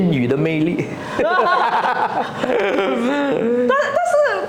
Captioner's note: haha, laughter